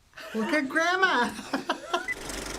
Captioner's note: Finebros laughs